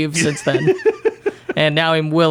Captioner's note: laughing